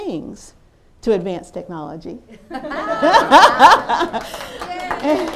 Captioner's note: laughter